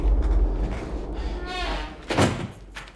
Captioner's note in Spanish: Se abre y se cierra una puerta